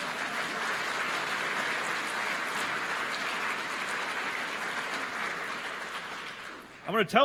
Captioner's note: applause